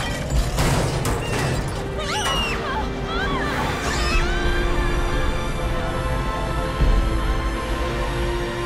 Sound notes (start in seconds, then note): 2.0 screaming